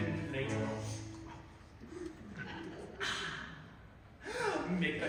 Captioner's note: eating noises